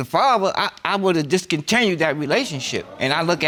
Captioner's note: audience exclaiming